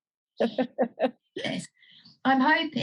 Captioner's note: laughs